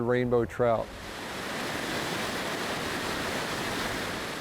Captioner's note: water rushing